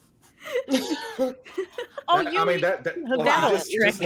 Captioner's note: cast members laughing